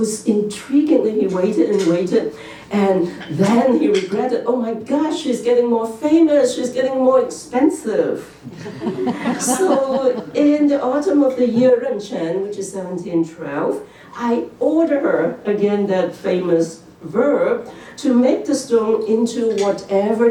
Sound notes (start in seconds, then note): 8.5 laughter